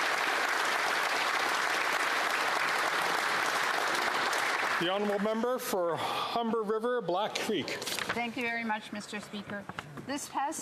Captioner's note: applause